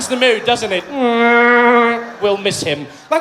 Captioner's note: sound of a vuvuzela